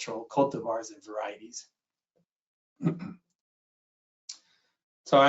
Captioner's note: clears throat